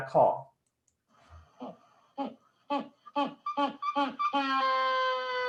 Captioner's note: penguins squawking